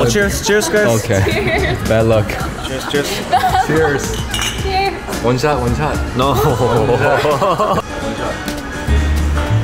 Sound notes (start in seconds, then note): 6.2 laughing